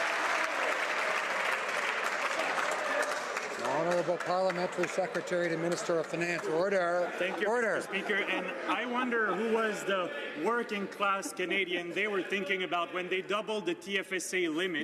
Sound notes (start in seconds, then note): 0.0 some Applause